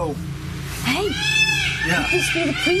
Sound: peacocks squawking

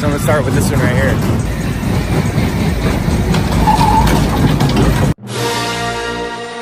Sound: ride noises

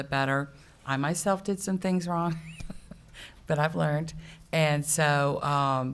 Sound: laughs

